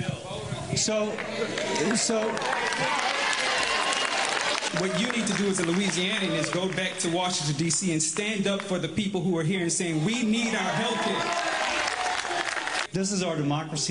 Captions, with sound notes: THIS IS LOUISIANA, WEIGHING IN ON ALL OF THIS. >> VOTE AGAINST THAT HIDEOUS BILL. [ APPLAUSE ] >> WHAT YOU NEED TO DO IS A LOUISIANAN IS GO BACK TO WASHINGTON, D.C. AND STAND UP